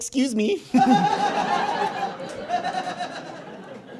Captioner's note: audience guffaws